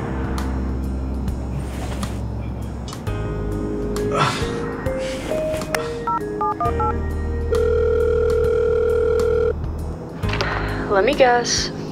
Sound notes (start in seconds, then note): 6.0 cell phone dials; 7.5 cell phone ringing; 10.3 phone picks up